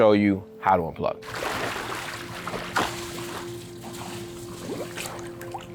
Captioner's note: water splashing